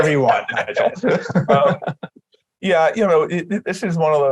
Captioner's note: laughter